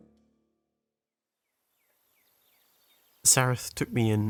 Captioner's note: birds chirping